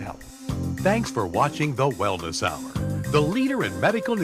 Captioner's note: voiceover